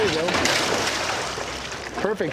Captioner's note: splash